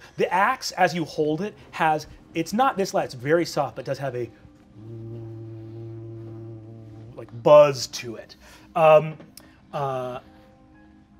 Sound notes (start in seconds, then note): 4.6 humming